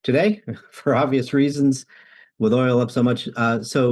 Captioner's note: chuckles